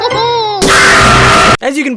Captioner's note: laughs; screams while baking alive